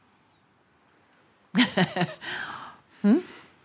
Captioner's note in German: Mutter lacht